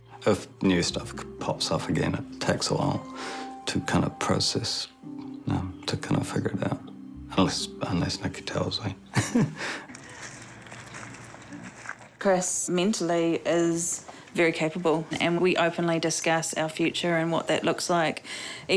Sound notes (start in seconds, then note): 9.1 laughs